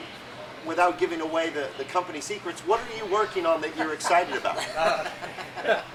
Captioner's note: laughing